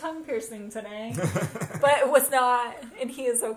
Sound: laughs

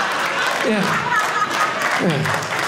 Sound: audience laughing

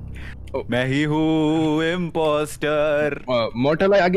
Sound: in a musical tone

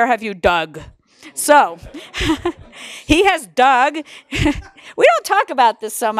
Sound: laugh

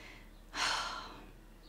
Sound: sighs

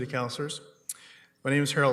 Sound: whispering

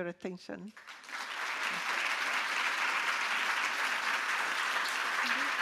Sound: audience applauding

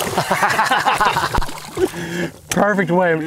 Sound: both laughing

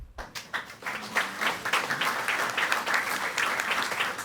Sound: audience applauding

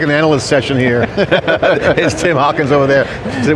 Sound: panelists laughing

